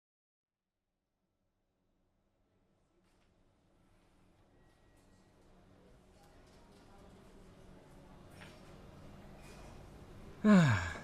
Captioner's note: cafe ambiance